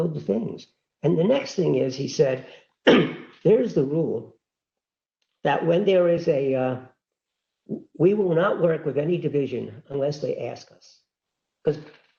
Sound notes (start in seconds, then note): 2.8 cough